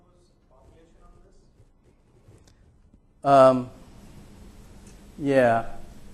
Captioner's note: man speaking in the background